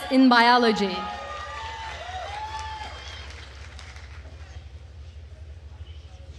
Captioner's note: attendees cheering and applauding